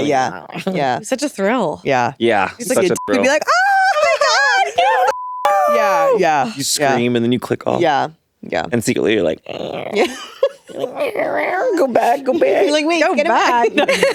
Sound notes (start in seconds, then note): 5.0 beeping